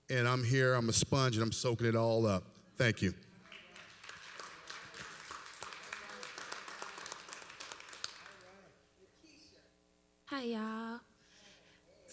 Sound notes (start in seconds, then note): 3.4 applause